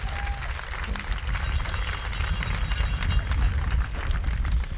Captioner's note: audience applauding